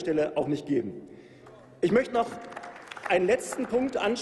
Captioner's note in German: Applaus